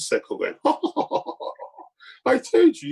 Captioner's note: laughs sarcastically